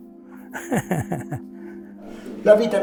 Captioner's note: laughs